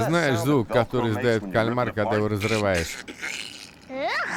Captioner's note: imitates ripping sounds